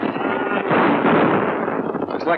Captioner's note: gunshots